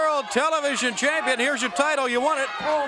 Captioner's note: crowd cheering